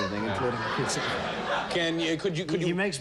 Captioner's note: laughter